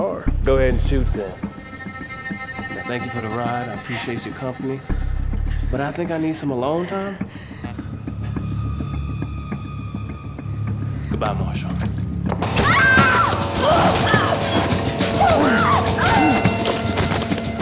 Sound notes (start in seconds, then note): 12.6 screams